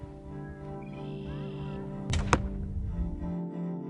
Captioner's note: weapon fires